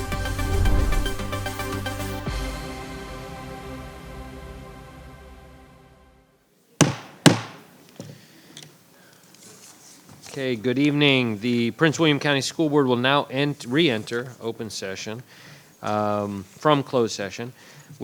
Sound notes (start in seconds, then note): 0.0 air whooshing; 2.2 upbeat music; 6.8 gavel rapping